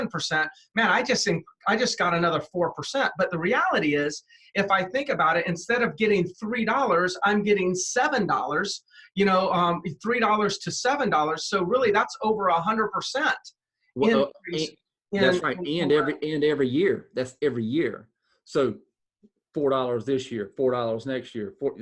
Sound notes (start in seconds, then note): 14.0 murmur